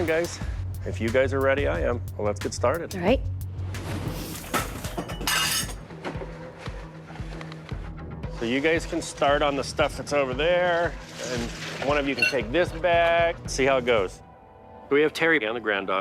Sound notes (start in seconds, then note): 3.9 tense music; 4.1 objects clattering